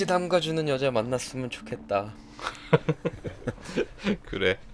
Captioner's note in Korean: 웃음